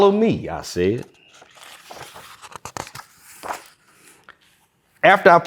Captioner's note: pages rustling